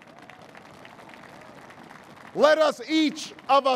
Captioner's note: applause